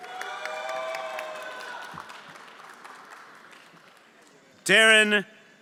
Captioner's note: everyone applauding